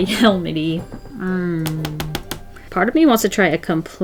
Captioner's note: tapping